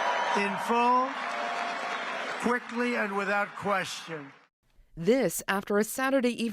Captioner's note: cheers and Applause